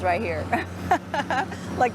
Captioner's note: laughs